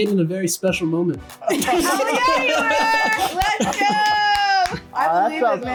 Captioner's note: claps